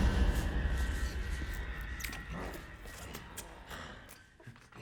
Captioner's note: sucking